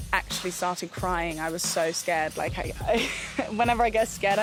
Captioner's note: chuckles